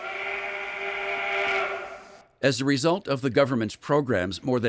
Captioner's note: steam whistle blows